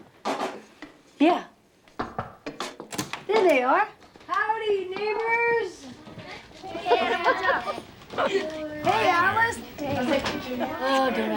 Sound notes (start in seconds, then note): 2.0 knocking on door